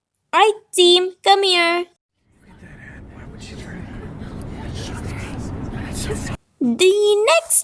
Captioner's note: whispering our plans